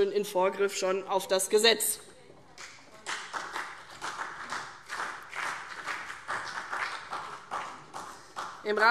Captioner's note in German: Vereinzelter Beifall CDU und BÜNDNIS 90/DIE GRÜNEN